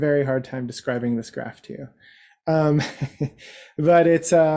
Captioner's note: laughs